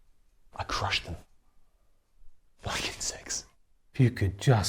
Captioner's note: scoffs